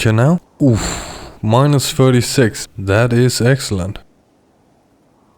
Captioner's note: pleased expulsion of air